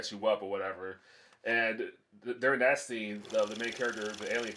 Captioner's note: reel flickering